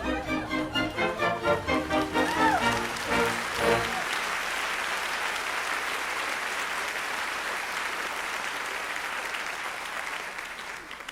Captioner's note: applause